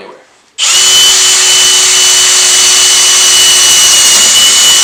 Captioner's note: drill buzzes